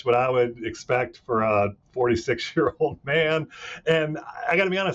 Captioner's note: chuckling